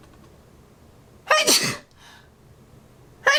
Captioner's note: sneeze